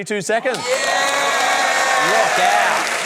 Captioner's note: cheering, applause